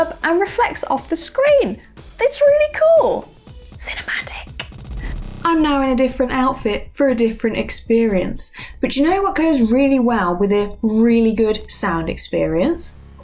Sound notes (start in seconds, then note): 3.4 whispers